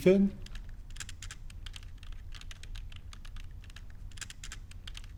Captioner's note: keyboard tapping